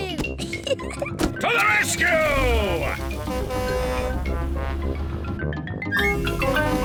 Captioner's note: horn blares